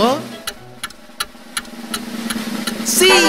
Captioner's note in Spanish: Sonido de reloj